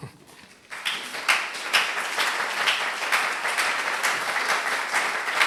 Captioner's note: applause